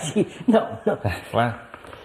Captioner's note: laughs